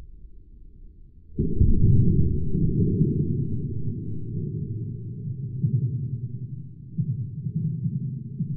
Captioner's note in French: Bruit de l'impact au ralenti